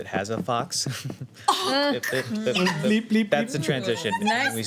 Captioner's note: laughing